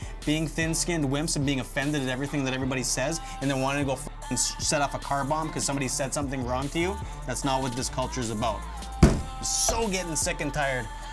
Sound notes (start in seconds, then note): 9.0 hand thumping on desk